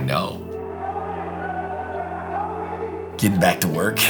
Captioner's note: players shouting